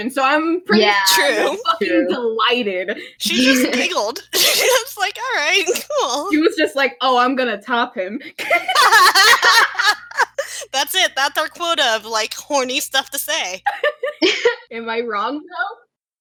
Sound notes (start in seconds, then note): 8.4 laughter; 14.2 laughs